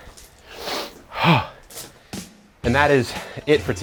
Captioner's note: sigh